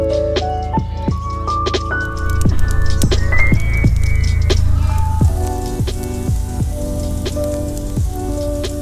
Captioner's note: fire crackling